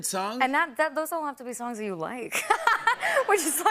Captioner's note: laughter